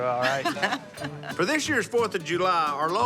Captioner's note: laughs